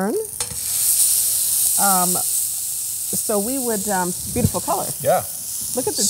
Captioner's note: sizzle